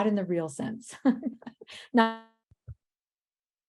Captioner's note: chuckles